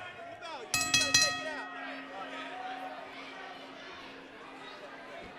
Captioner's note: bell ringing